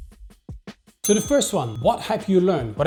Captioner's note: bell dings